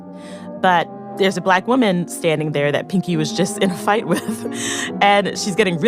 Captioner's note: laughs